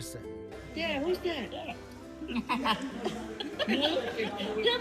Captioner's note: laughs